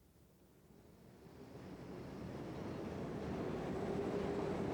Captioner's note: train rumbling